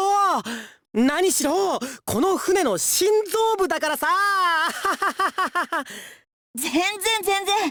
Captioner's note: awkward laugh